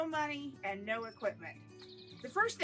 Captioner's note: birds chirping